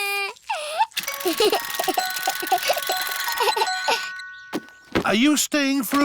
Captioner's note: alexander giggles